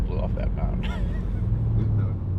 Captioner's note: laughing